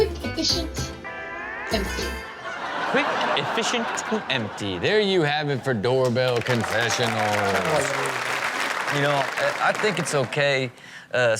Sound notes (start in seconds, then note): 2.4 audience laughs; 6.1 audience applauds